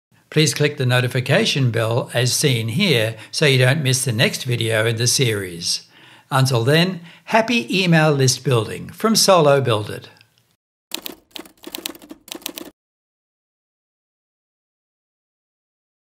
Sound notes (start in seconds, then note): 10.9 keyboard clicking